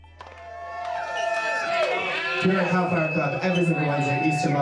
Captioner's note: crowd cheering